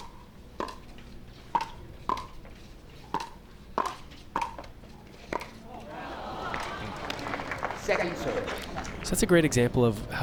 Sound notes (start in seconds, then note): 5.6 crowd groans; 5.8 crowd applauds